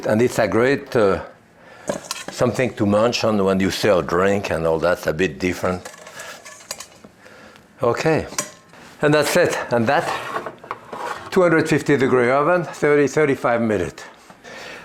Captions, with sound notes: and it's a great something to munch on when you sell a drink, and all that's a bit different. (bowl clanking) Okay, and that's it. And that 250 degree oven, 30, 35 minute.